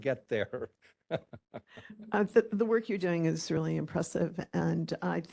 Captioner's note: laughing